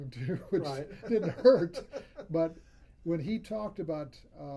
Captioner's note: laughs